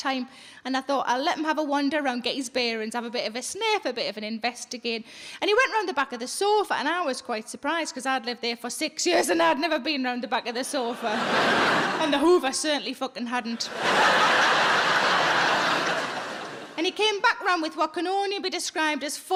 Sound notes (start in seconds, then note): 10.8 audience laughing; 13.6 audience laughing